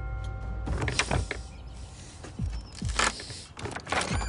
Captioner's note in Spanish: Ruidos al forzar la puerta